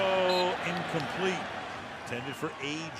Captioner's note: whistle